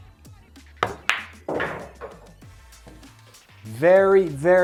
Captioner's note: pool ball hitting